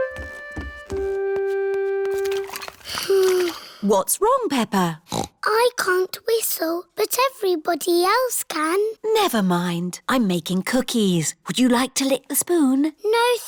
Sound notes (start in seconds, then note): 2.8 sighs; 5.0 snorts